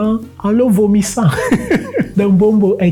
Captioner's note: laughter